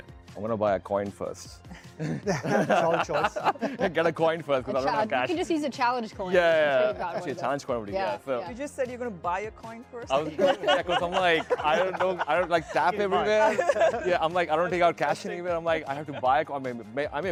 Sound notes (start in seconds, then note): 1.8 panelists laughing; 10.2 laughs